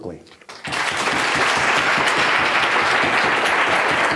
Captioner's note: audience applauds